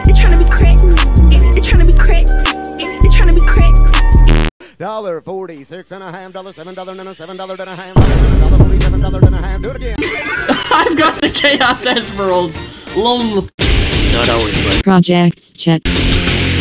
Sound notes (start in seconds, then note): 3.0 bass boosted sound